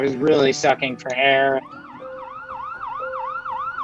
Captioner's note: ambulance sirens